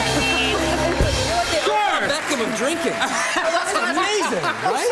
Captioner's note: laughing